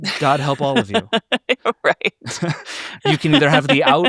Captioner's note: laughing